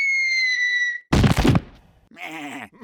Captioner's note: sheep thud